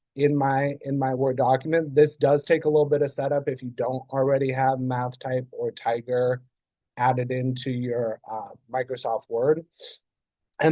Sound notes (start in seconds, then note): none